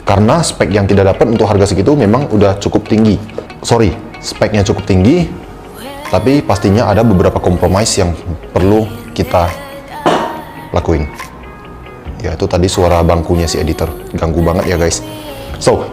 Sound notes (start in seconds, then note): 10.1 thud